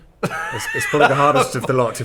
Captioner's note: laughs